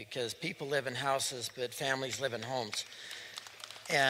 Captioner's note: applause